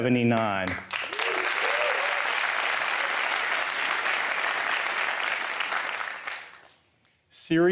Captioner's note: applause